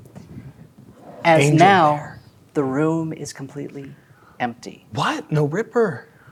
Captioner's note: whispers